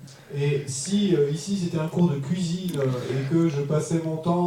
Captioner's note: French